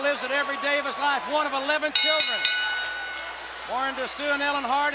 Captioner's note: bell rings